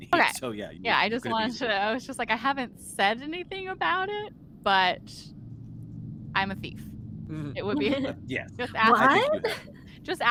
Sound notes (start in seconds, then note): 7.6 chuckles